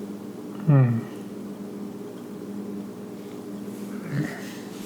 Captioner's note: sighs